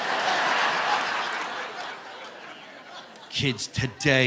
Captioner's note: audience laughing